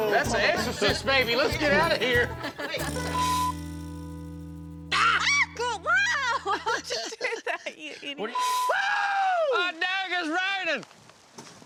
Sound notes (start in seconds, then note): 5.8 both laughing